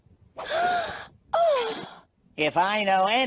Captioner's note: gasps